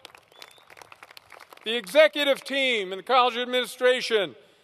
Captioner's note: applause